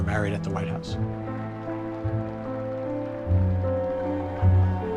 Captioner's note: guests applauding